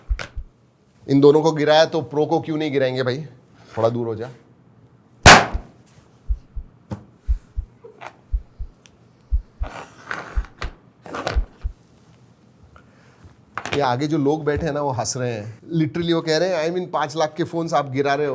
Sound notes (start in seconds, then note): 6.1 heartbeats